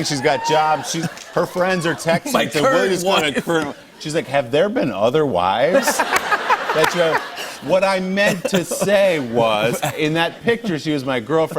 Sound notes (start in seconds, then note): 5.7 laughter